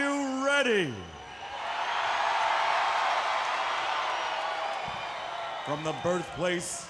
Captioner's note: crowd cheering